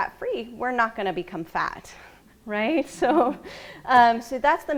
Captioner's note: laughs